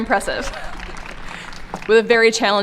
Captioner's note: applause